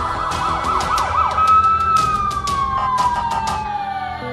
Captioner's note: ambulance siren is ringing